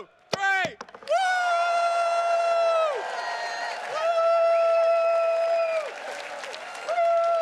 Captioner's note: attendees cheers and claps